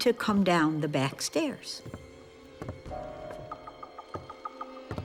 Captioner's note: footsteps